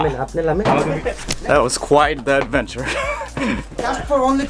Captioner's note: laughs